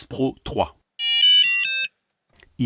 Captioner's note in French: Bip